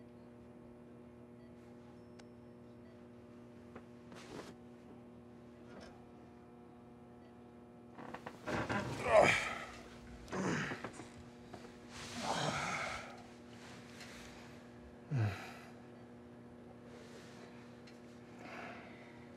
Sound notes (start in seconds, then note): 8.8 Rufus grunts; 15.0 sighs